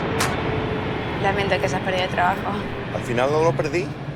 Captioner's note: airplane Flying